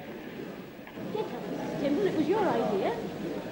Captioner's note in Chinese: 听众在讨论无关的事